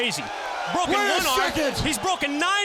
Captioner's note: crowd cheering